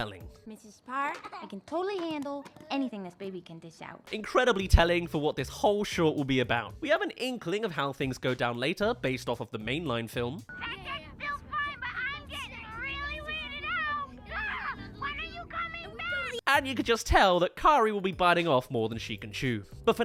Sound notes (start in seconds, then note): 13.2 phone call